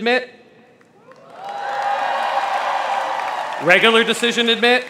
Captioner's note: crowd cheers